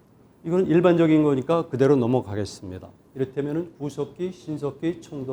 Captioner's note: speaking in Korean